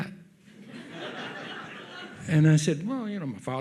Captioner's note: audience laughs